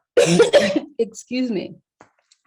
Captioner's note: coughs